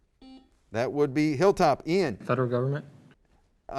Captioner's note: buzzer